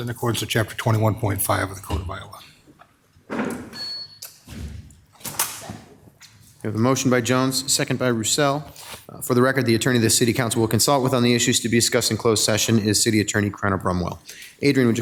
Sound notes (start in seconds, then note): 3.4 scraping; 3.4 thudding